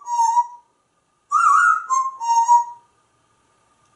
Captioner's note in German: whistling; more whistling